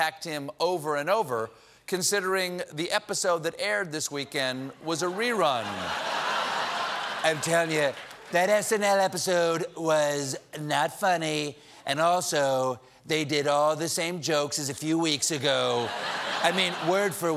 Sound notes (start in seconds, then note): 5.0 laughter